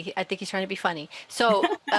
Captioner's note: chuckles